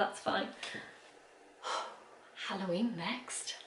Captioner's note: exhales